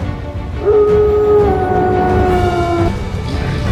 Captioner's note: howling